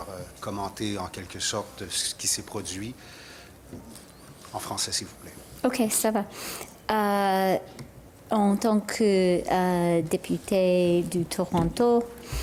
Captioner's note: speaking french